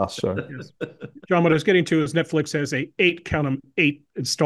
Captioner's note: laugh